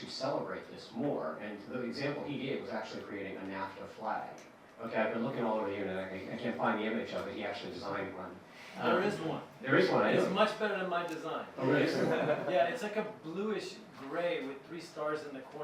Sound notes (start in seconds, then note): 12.2 murmuring